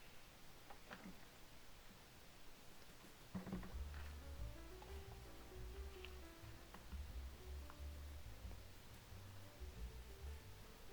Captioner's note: footsteps